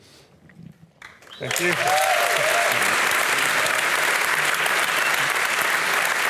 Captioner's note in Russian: публика аплодирует